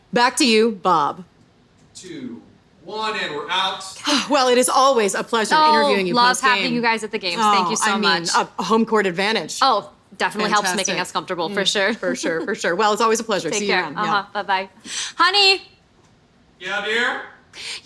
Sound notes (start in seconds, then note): 4.0 sighing